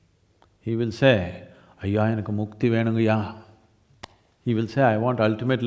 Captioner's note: speaks in Tamil - not transcribed